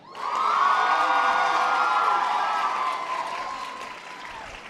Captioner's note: audience applause